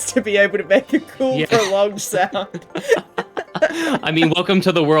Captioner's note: laughs; chuckles